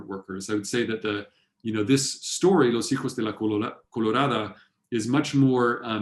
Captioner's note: spanish